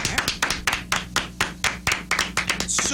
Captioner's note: clapping